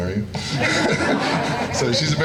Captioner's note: laughing